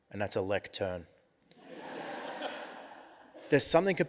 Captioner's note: audience laughs